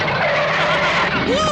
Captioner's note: breaks squeal; Toad laughs